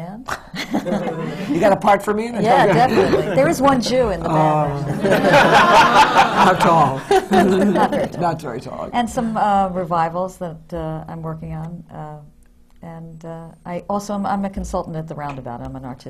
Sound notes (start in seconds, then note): 0.3 laughs; 4.9 laughter